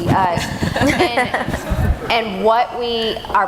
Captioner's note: laughing